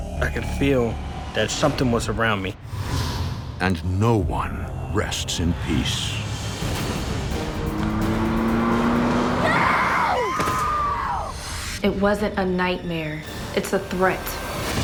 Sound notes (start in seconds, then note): 6.6 dramatic music; 8.1 car revving